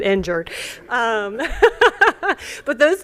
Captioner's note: laughter